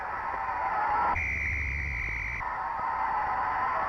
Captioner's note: referee whistling; crowd cheering